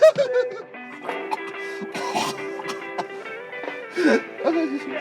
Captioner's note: crying and music intensifies; chokes